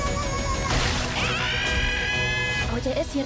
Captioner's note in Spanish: gritos